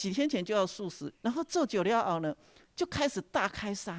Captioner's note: taiwanese dialect